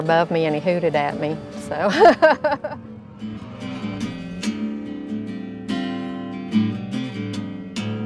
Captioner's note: laughter